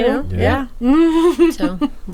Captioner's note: laughing